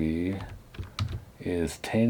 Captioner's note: keyboard typing